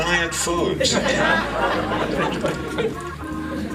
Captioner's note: laughter